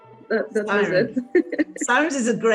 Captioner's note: laughs